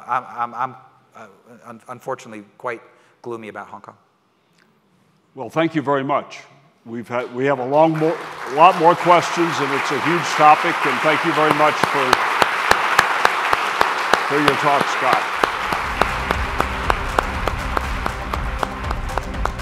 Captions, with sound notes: I'm unfortunately quite gloomy about Hong Kong. - Well, thank you very much. We have a lot more questions and it's a huge topic and thank you very much. (crowd applauding) For your talk, Scott. (upbeat music)